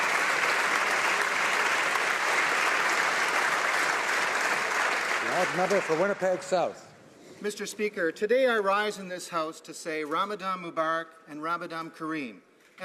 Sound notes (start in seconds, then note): 0.0 applause